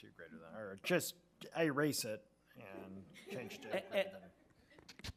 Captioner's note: speaks faintly